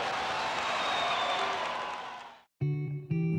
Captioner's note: audience cheering